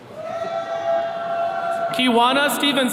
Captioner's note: attendees cheering